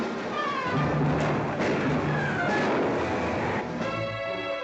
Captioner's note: gunshots